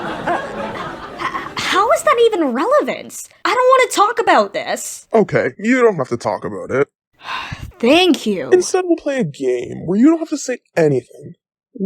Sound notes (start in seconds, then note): 0.0 audience giggles and hoots; 7.2 frustrated sigh